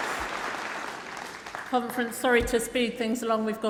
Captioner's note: applause